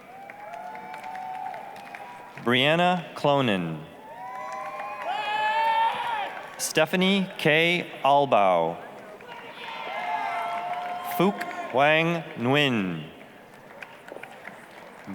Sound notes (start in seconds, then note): 0.0 applause, cheering; 4.0 applause, cheering; 8.8 applause, cheering; 13.6 applause